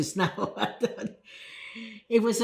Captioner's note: laughing